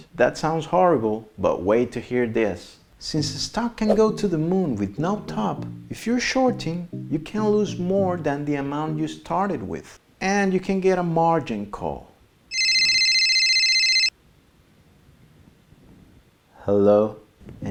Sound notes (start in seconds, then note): 12.5 phone rings